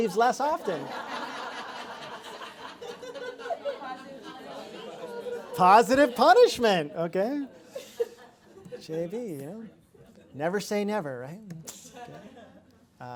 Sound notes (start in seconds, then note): 4.9 laugh